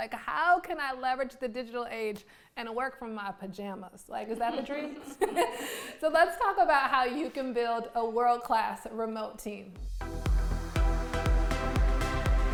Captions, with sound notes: It's like how can I leverage the digital age and work from my pajamas? Like, is that the dream? (all laughs) So let's talk about how you can build a world class remote team. (upbeat music)